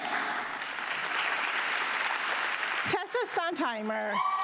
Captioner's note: audience clapping